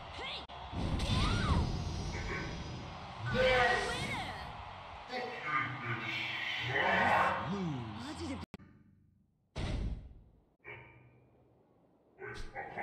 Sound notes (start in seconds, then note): 3.1 demon noise???????